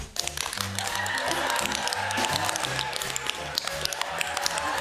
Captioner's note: cheering